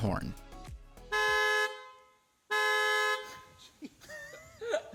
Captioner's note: horn honking; laughing